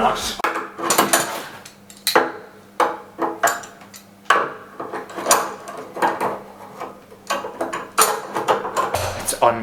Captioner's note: clattering Sounds